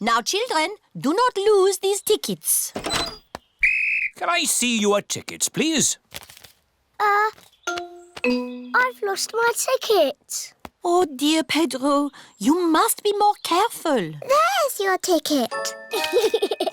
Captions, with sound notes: Now, children, do not lose these tickets. -(BLOWS WHISTLE) -Can I see your tickets, please? Uh... I've lost my ticket. Oh, dear, Pedro, you must be more careful. -There's your ticket. -(GIGGLES)